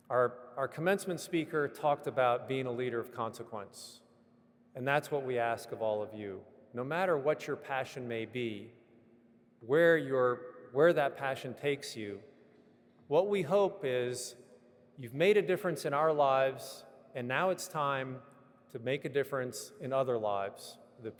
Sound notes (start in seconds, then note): none